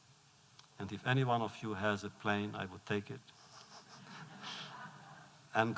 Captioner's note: laughter